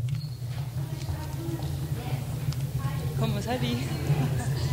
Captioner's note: people talking